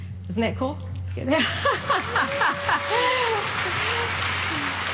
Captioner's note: audience applauding